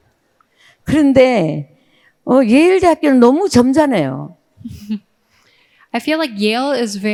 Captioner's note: speaking in foreign language